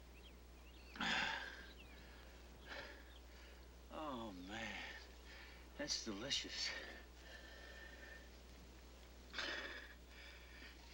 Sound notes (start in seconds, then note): 0.9 sighs